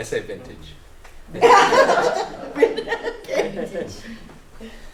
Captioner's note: laughter